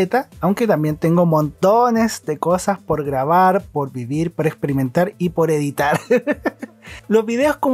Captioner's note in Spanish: risas